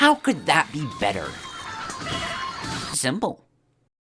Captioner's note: the sound of chickens devouring souls